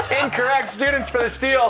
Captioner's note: laughter